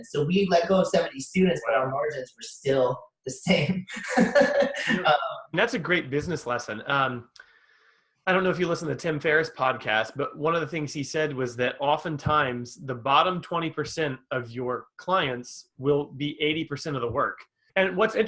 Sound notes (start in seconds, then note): 4.1 laughs